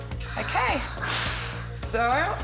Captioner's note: blowing